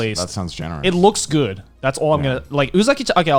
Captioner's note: laughs